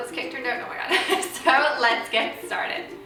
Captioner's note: laughs